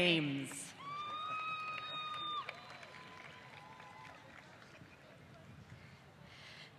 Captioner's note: applause